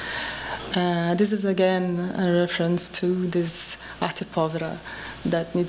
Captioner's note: speaking portuguese